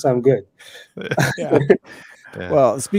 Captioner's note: laughing